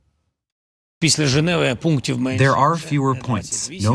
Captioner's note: through translator